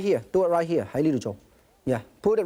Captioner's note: speaking in foreign language